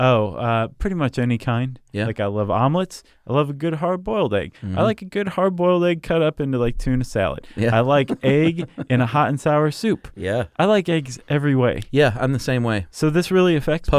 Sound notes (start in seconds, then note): 7.5 laughs